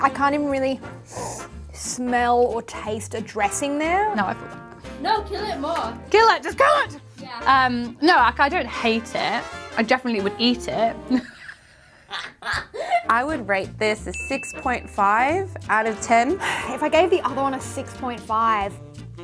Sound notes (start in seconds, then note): 11.1 laughs